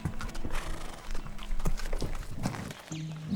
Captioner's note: horse braying; soft romantic music